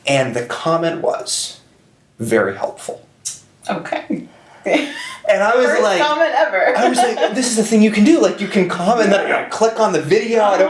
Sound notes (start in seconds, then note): 4.7 chuckles; 6.4 laughs